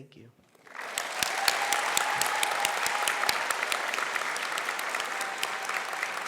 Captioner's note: applause